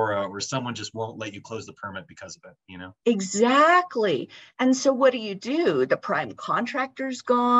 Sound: talking

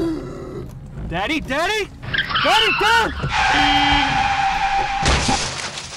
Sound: gasp for air; crash

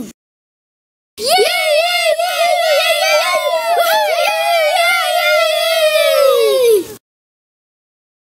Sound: cheering

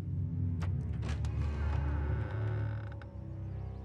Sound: hinge creaking

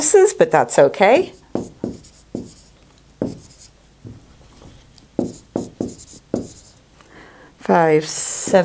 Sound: sound of marker writing

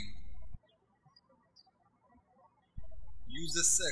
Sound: birds chirping

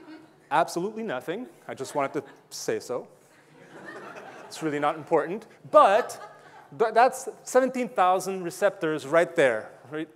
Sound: audience laughing

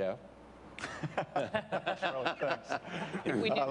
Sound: laughs

